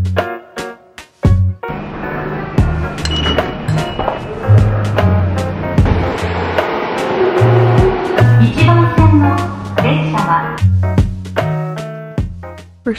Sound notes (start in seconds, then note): 1.7 machine beeping; 9.3 announcement in foreign language; 11.4 upbeat music